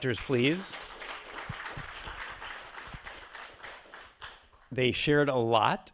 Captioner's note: attendees applauding